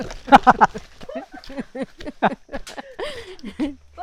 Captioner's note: laughs